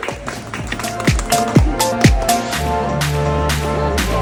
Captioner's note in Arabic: الجمهور يصفق; موسيقى حيوية